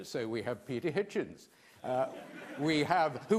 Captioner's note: laughter